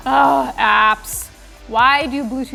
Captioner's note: groans